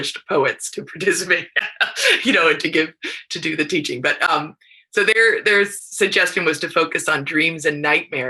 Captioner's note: laughs